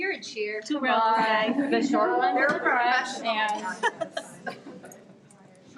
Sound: people chattering

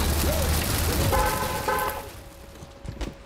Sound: horn beeping

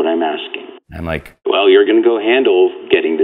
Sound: voiceover

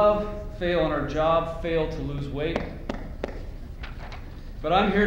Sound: pats belly

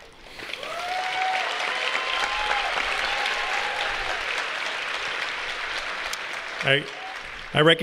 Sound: applause

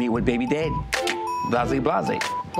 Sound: clicks

